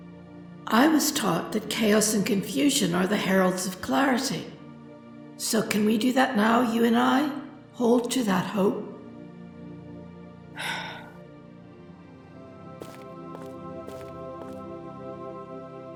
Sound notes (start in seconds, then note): 10.6 Morgan sighs